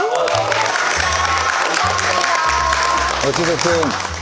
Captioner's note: A round of applause